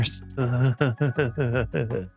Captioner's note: groans